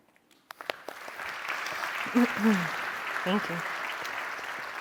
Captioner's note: crowd clapping